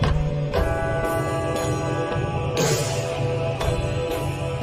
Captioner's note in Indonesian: lonceng